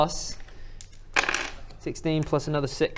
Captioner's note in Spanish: tirada de dados